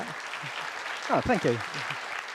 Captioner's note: applause